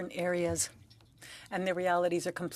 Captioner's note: speaking French